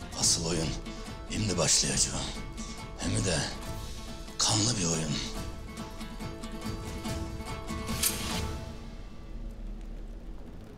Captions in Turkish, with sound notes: Asıl oyun imdi başlayacak. Hem de kanlı bir oyun. (Hançer çekme sesi)